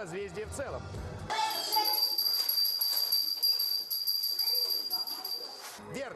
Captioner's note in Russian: звук колокольчика